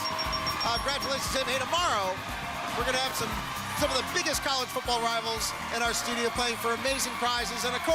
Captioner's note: cheers and applause